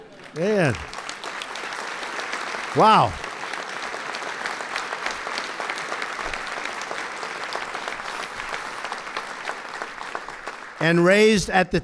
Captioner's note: applause